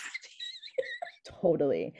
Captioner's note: laughing